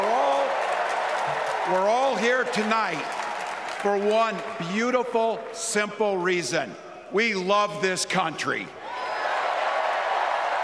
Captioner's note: applause